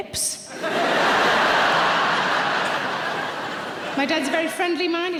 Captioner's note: audience laughs